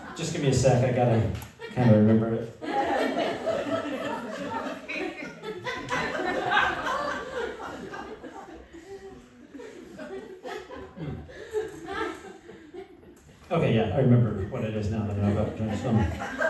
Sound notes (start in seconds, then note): 3.0 laughter